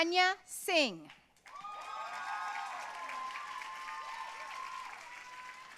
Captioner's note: audience cheering and applauding